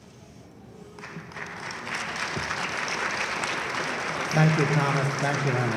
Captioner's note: audience applauds loudly